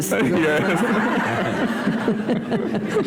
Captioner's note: laughter